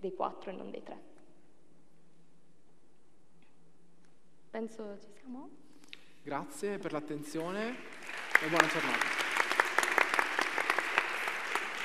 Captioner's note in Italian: Applauso